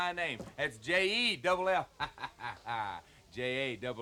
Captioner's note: laughs